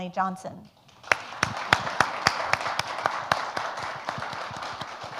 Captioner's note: audience applauds